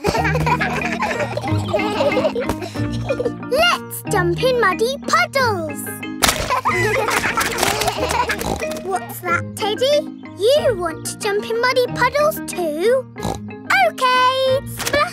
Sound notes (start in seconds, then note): 0.0 kids laughing; 6.2 kids laughing; 7.8 snorts; 13.2 snorts